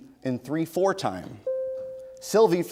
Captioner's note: bell rings